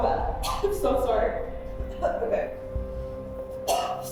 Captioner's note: coughs